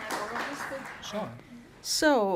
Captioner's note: applause